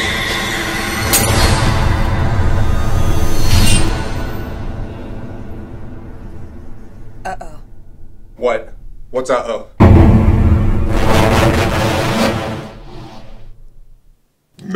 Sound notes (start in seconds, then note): 1.1 orb shattering; 9.8 dramatic music